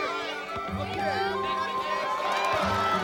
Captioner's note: cheering and shouting